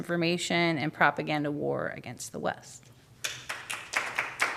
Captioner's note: applause